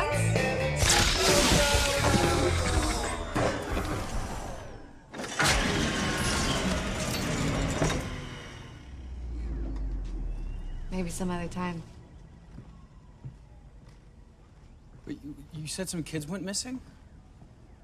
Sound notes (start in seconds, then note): 0.8 electrical crackling; 4.6 mechanical whirring